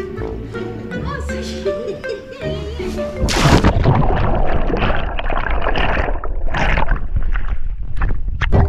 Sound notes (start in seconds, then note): 3.2 loud splash